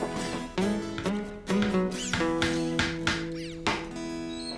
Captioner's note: hammer Pounding